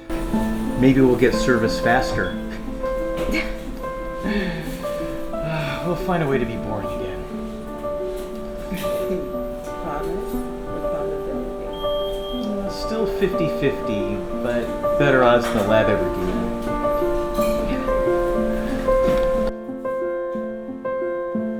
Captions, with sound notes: - Maybe we'll get service faster. (both laughing) We'll find a way to be boring again. - Promise? Probability. - It's still 50/50, but better odds the lab ever gave me. (light music)